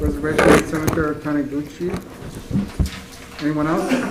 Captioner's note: microphone malfunctions